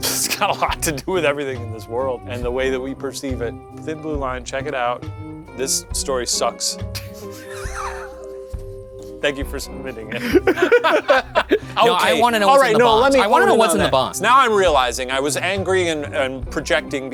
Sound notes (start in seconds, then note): 6.9 both laughing; 10.0 both laughing